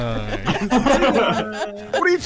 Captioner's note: laughter